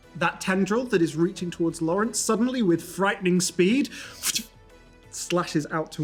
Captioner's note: thwip